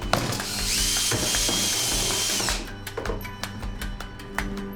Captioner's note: drill whirring